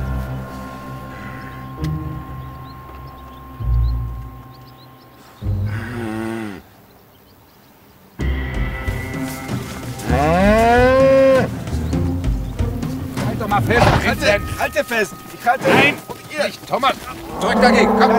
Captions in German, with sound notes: (Leise, spannungsvolle Musik) (Lautes Muhen) Halt doch mal fest. - Ich halt doch fest! Nein, nicht, Thomas! Drück dagegen!